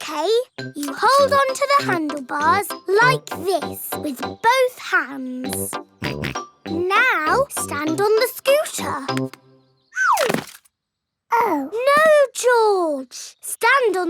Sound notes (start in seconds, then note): 6.3 snorts